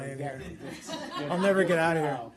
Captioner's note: laughter